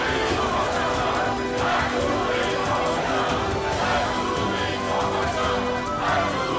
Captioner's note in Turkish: Hep bir ağızdan